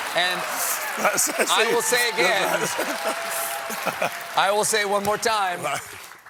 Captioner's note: applause